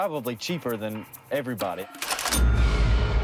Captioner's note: cash register sound